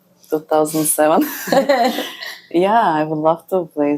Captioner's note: laughs